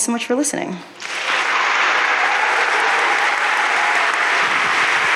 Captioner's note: audience applauding